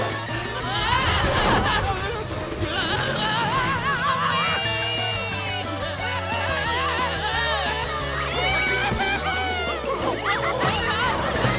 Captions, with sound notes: [screaming] Wee! [screaming] Yahoo hoo! Whoa!